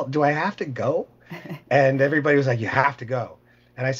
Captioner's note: laughing